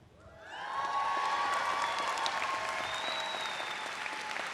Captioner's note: audience applauds